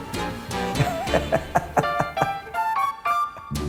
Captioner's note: laughs